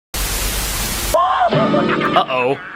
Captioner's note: The Green Goblin evil laughing and jumping